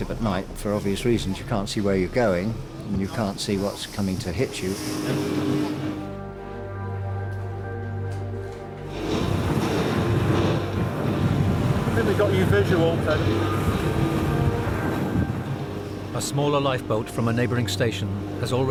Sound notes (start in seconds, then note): 5.8 dramatic music; 8.9 motor whirring